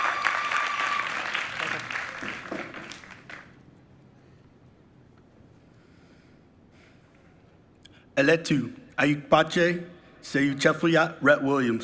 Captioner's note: applause